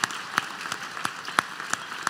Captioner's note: applause